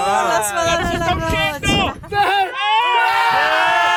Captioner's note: cheering